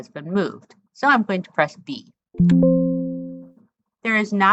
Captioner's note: ding from screen reader